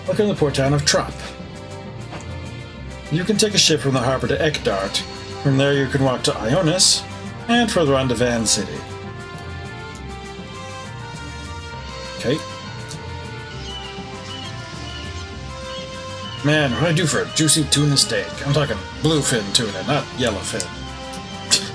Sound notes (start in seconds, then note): 12.8 seagulls calling; 21.5 laughs softly